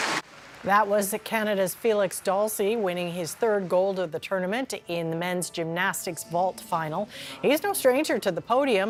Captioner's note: applause